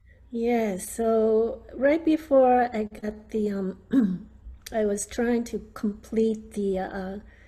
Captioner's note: clears throat